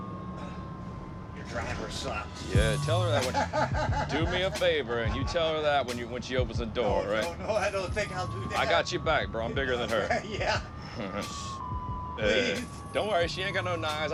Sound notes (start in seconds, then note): 2.8 laughs; 10.0 laughs; 10.8 chuckles; 10.8 laughs